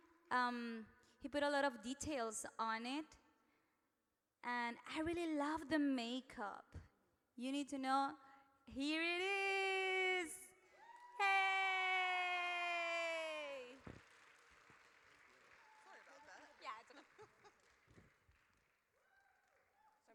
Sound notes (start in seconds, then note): 13.8 audience cheers